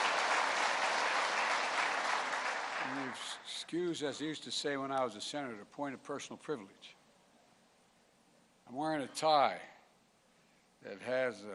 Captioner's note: applause